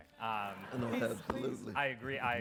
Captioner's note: audience laughs